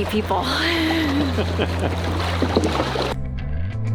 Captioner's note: laughing